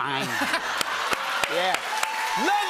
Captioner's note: cheers and applause